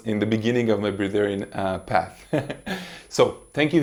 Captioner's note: laughs